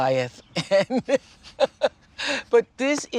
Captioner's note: laughs